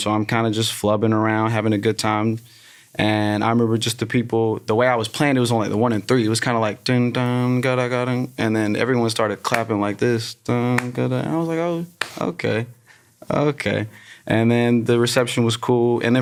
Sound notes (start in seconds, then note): 7.3 imitates guitar; 10.3 vocalizes; 10.7 hands clapping